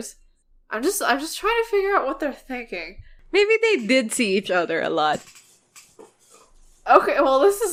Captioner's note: laughing